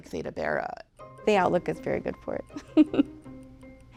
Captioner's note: chuckles